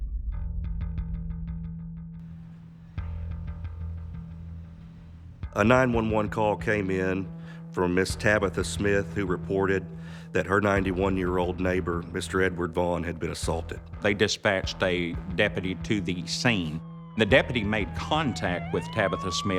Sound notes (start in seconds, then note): 0.4 dark suspenseful music; 15.5 police siren blaring